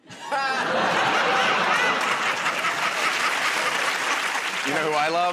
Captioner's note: laughter